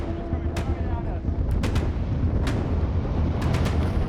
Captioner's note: dramatic music; windy sounds